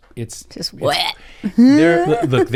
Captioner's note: chuckles